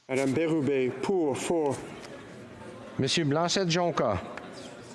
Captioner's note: speaking FRENCH